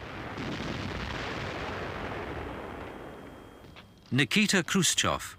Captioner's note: artillery blasting